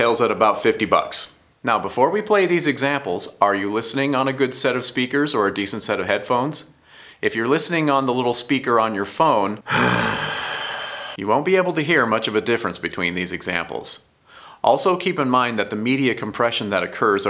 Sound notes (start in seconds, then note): 9.6 groan